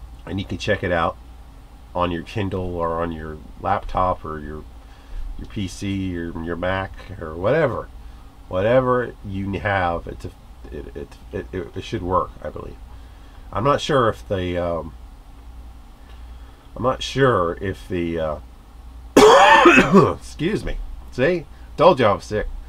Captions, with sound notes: And you can check it out on your kindle or on your laptop or your PC or your mac or whatever! Whatever you have, it should work, I believe. I'm not sure if they, umm... I'm not sure, if the, uhh... [coughs] Excuse me! See? Told ya I was sick.